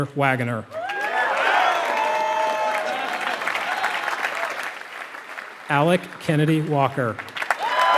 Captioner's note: applause